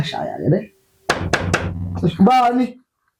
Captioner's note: dook Knock